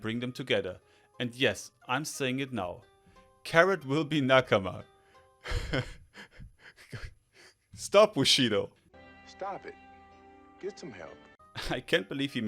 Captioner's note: giggles